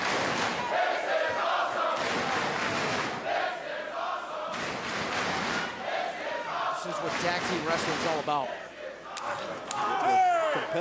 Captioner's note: crowd cheering